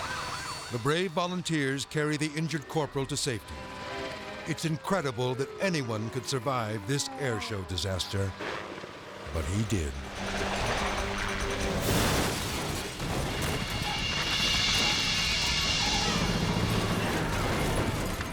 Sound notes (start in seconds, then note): 8.4 helicopter blades whirring; 11.8 helicopter crashes; 13.7 dramatic music